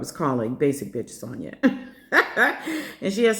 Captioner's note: laughter